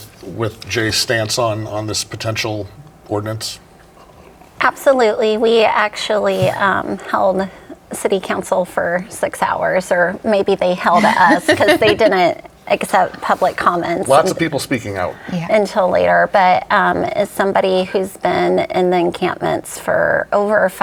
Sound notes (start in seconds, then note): 10.8 laughs